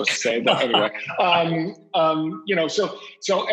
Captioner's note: laughs